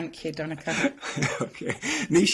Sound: laughing

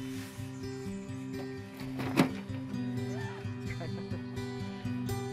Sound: gentle acoustic guitar music; laughs and mutters indistinctly

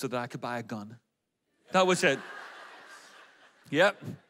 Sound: audience laughs

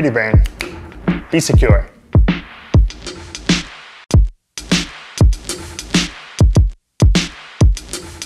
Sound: snaps fingers

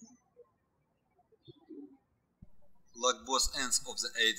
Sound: birds chirping

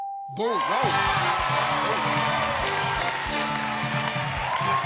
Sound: cheers and applause; theme music plays

